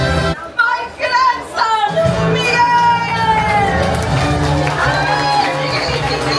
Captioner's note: crowd cheers